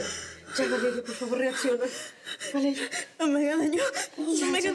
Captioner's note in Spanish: sollozos